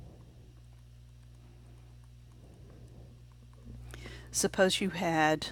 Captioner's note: silent